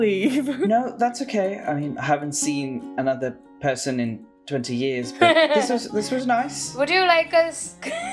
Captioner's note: laughter